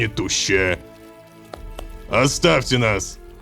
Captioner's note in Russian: Пара хлопков